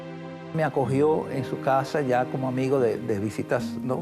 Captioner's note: speaking Spanish